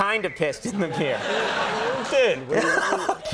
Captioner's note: audience laughing